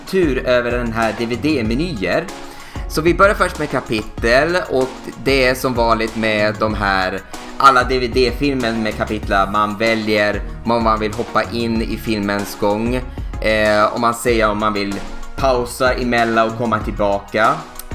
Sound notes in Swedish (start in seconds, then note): none